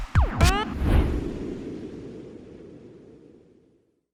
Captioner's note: logo whooshing